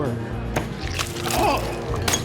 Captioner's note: splash